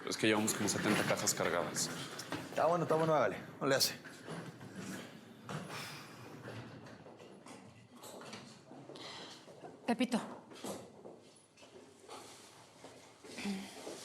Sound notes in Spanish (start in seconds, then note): none